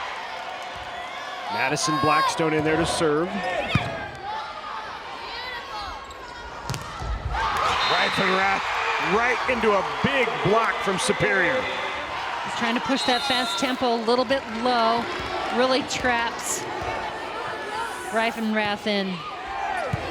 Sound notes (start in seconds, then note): 7.5 crowd and players cheering; 19.2 players yelling